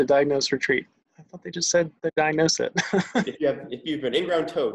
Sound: laughs

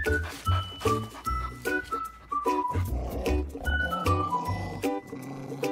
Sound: cheerful music; dog panting and growling

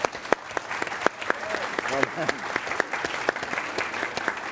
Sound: applause

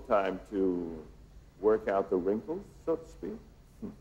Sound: chuckles

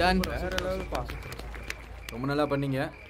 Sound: applause

